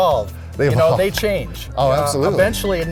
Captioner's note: laughs